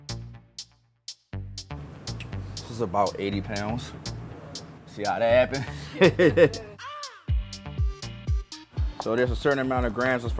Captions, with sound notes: (staccato synth music) - This is about 80 pounds. See how that happen? (laughing) (rhythmic synth music) So there's a certain amount of grams